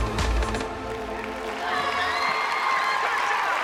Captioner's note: applause